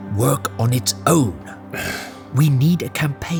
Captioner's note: frustrated sigh